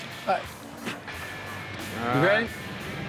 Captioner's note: spits